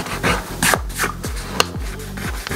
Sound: eraser rubbing; palm rubbing; eraser rubbing

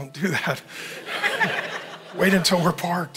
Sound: audience laughing

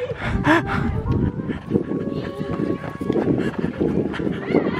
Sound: heavy breathing

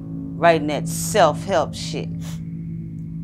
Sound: sniffs

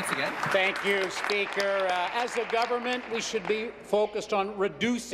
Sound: applause

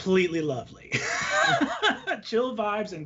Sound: laughs

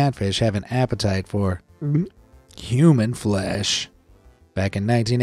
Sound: gulps cutely

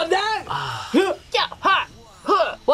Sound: grunting; grunts

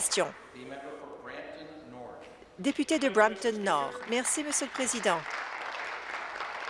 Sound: some Applause

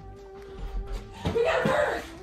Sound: shouting

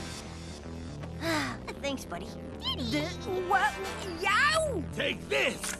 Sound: sighing; stammering

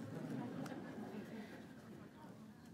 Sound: laughter

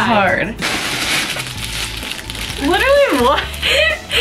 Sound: plastic crinkling

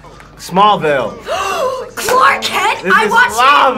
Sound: gasps

